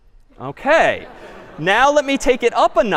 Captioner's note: laughter